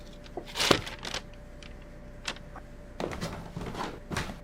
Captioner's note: falling bag thuds